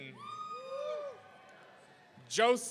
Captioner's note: audience cheering